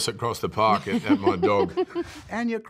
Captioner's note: laughs